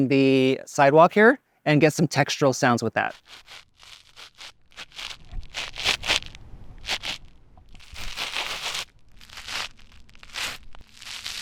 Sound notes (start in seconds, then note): 3.5 sand crunching